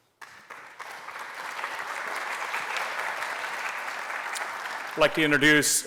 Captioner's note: applause